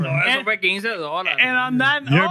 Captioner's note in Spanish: Hablando en idioma extranjero